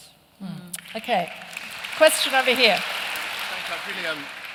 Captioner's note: applause